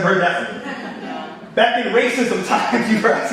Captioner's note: audience laughing